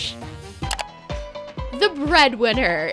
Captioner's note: clicking